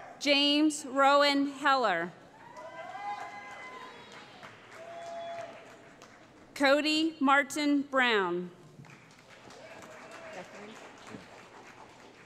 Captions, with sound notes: James Rowan Heller [ Cheering ] Cody Martin Brown [ Applause ]